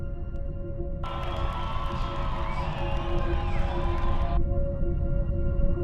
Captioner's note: crowd cheers; slow instrumental music